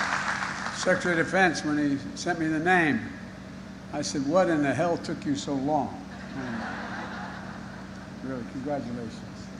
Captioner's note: applause